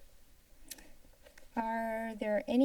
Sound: silence; clicking sound

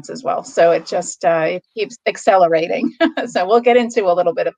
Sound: laughs

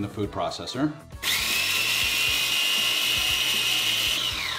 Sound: blender grinding

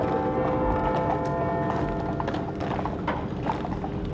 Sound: church bell tolls

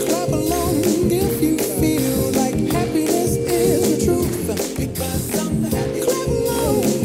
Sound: clapping

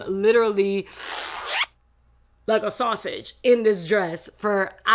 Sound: zip closing

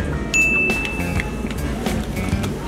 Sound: ding

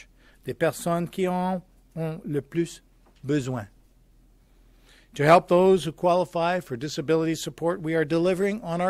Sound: speaking french

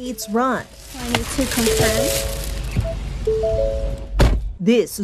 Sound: chiming continues

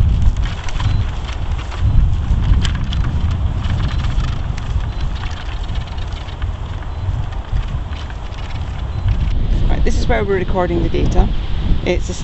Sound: wind noises, magnetometer rattles

